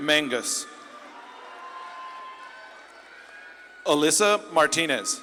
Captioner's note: audience claps and cheers